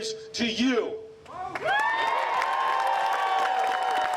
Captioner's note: applause